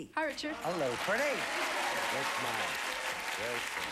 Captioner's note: audience applauding